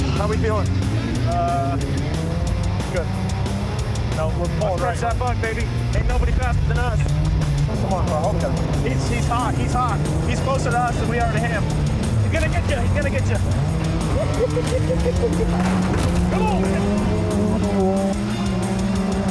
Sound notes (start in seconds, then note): 13.8 maniacal laughing; 15.0 crashing